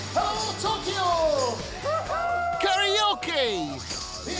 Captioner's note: all cheering